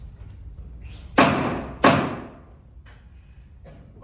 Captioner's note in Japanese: 木槌を打つ音